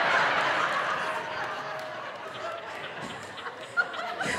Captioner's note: audience laughing